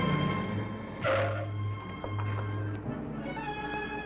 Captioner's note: tires screech